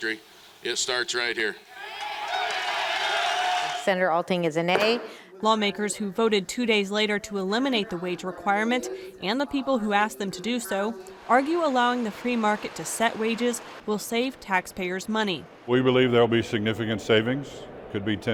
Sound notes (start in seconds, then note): 4.7 cheers